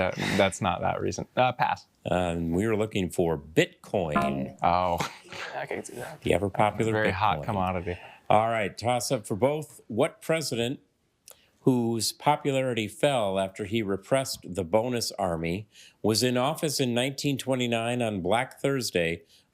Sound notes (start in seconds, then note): 4.2 failure chime